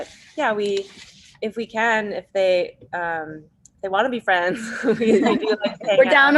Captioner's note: everyone laughs